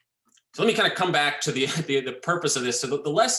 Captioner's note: laughs